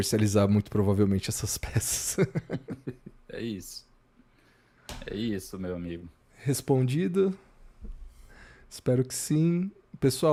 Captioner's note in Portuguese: risadas